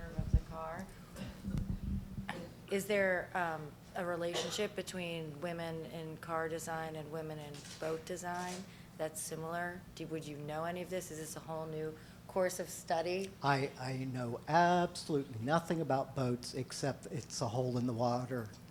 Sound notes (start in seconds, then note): 2.9 voiceover